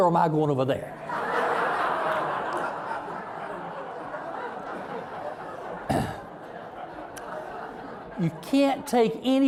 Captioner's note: audience laughing